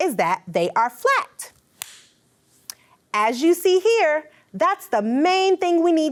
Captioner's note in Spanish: las manos aplauden